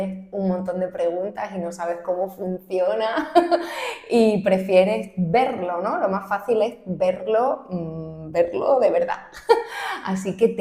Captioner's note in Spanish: risas